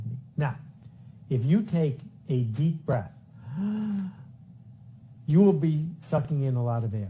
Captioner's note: sound of breathing in deeply